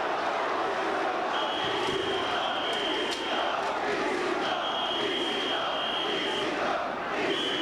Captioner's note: spectators cheering and applauding; spectators chanting "ECW"!; whistling